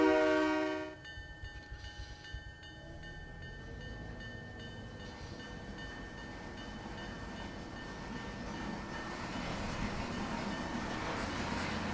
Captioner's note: train whistle